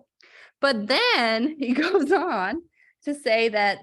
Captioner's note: laughter